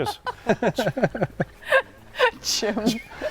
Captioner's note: laughing; laughs